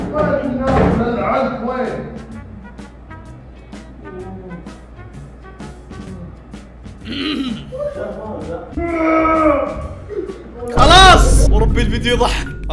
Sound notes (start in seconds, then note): 7.0 clears throat; 8.7 shouting